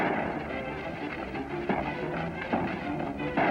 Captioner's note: gunshots